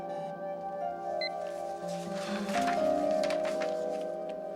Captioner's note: computer bleeps